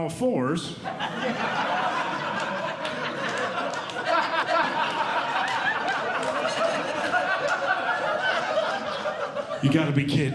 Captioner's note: audience Laughing